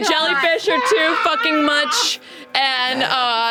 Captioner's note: screams